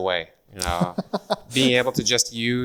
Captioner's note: laughs